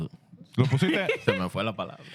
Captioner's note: speaking Spanish